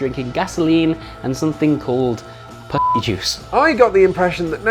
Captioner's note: beep